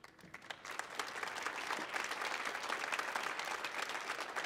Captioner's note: audience applauding